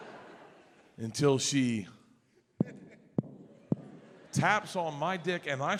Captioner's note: taps mic